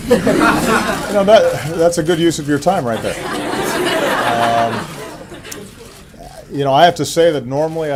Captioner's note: laughter